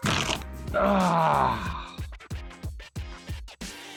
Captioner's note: manly gunt